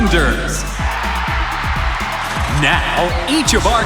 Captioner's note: cheering